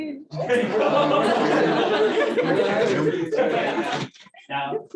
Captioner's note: laughter